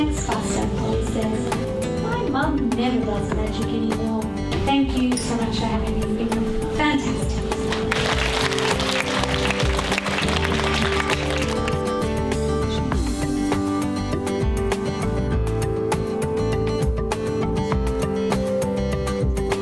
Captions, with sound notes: - Thanks castle princess, my mum never does magic anymore. Thank you very much, you're really fantastic! (all applauding) (upbeat music)